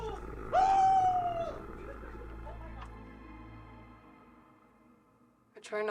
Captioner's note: Meathook Man growling